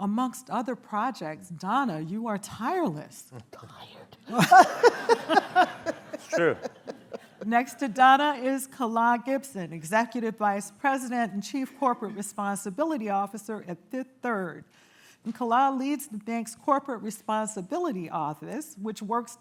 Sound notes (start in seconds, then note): 4.3 whispers; 4.3 laughter